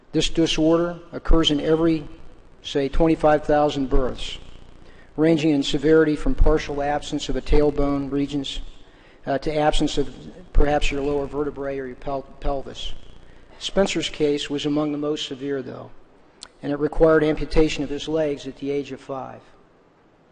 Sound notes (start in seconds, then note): none